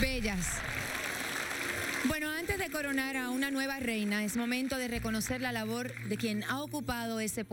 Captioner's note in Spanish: aplausos